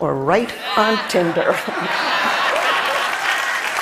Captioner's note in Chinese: Laughter; 笑聲; Applause; 掌聲